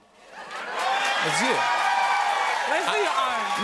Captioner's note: cheers and applause